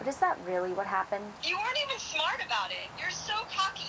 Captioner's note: on phone